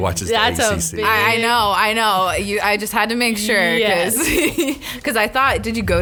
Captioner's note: laughs